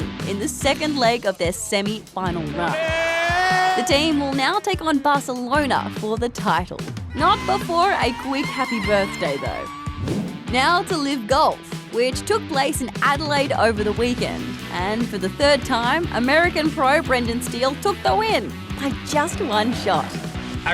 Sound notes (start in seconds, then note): 2.5 commentator cheers